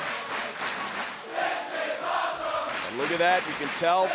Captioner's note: fans chanting